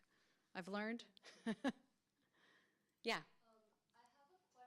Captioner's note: laughs